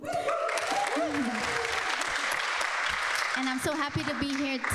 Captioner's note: people clapping